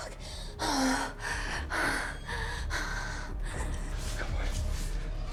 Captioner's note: tense music; Kira breathing heavily